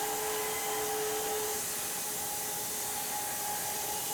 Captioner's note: none